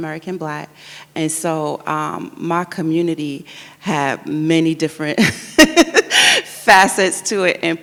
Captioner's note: laughs